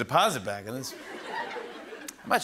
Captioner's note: laughter